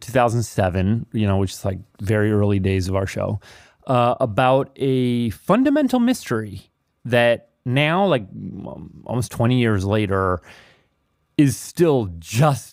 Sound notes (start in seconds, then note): none